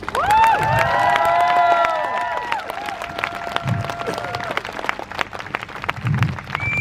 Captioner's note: crowd cheers